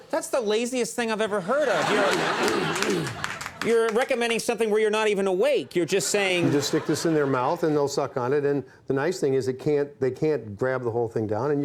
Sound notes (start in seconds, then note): 1.2 audience laughing